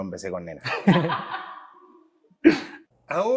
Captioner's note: laughs